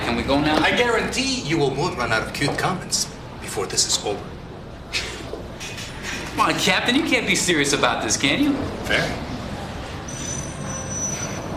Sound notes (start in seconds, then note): 4.9 laughs